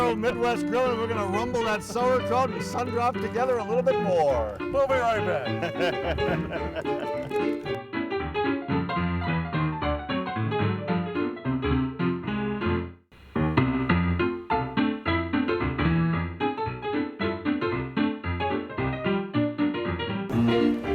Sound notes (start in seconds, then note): 4.9 laughing; 6.0 upbeat keyboard music; 13.7 ragtime piano music